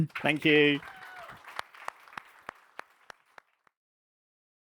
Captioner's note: applause